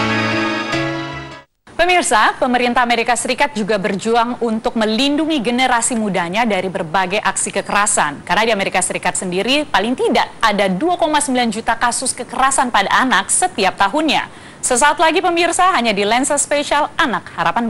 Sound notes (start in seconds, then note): 2.3 non-english speech